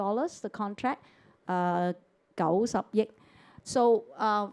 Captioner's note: Cantonese